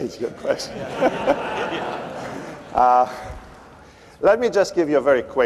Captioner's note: laughter